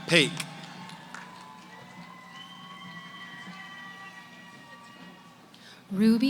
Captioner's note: cheering